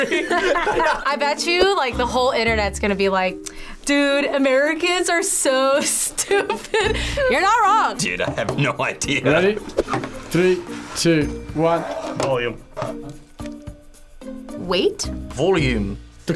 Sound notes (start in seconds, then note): 0.0 both laugh; 6.2 laughs